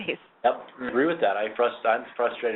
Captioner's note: voiceover